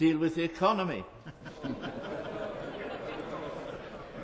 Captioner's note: chuckling